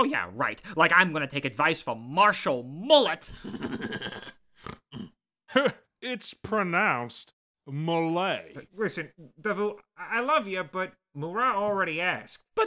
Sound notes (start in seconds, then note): 3.3 chuckles